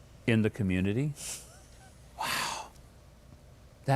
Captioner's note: laughs